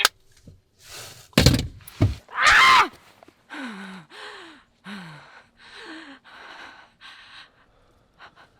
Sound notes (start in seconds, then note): 0.1 hangs up phone; 2.3 lyssa screaming; 3.4 lyssa panting